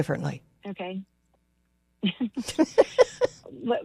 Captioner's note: laughs